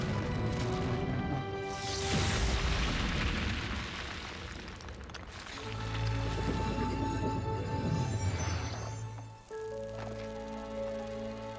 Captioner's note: rumbling